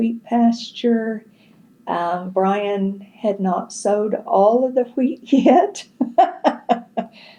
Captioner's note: laughs